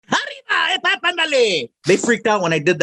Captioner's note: speaking spanish